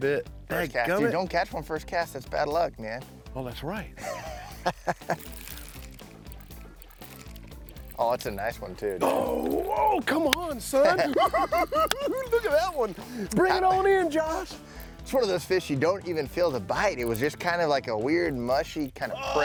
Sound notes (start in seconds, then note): 10.9 cackling